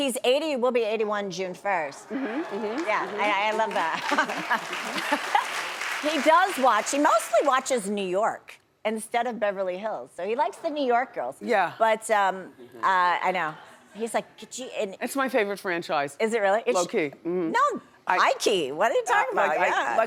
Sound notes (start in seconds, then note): 2.1 laughs; 4.4 audience applauds